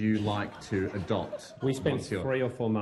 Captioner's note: laughter